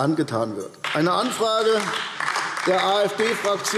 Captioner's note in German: Beifall AfD